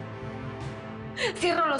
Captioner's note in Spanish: Sollozos